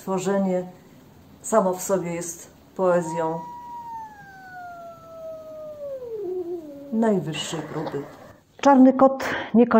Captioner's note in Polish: odgłos kota